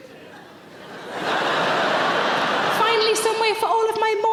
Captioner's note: audience laughs